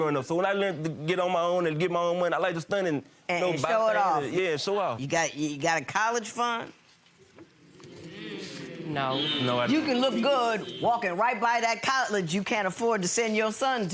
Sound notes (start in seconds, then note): 7.6 audience hums disapprovingly